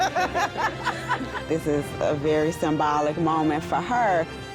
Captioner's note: laughs